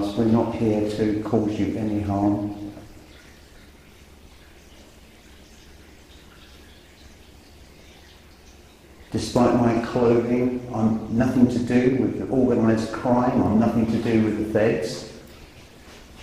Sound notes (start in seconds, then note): 3.2 water dripping